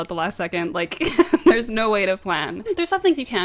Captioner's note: laughs